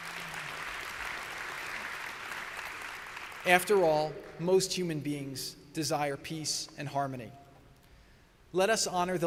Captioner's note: applause